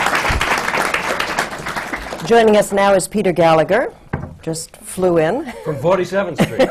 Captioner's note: applause